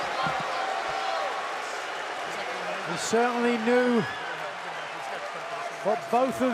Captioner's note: cheers and boos